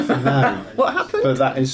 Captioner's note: laughing